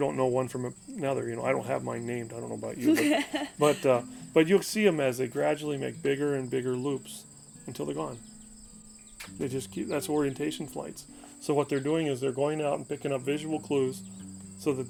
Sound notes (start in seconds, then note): 2.6 laughing